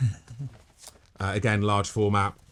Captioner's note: laughing